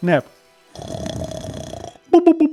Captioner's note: snores